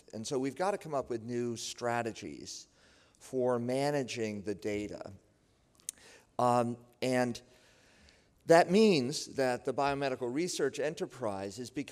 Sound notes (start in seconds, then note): none